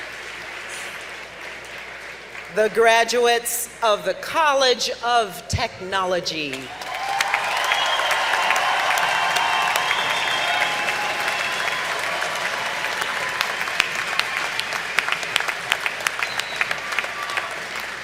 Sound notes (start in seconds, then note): 6.4 applause